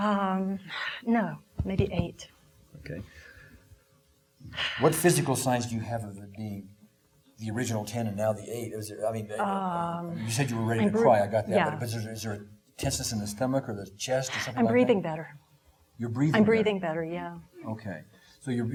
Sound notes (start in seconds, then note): 4.5 exhaling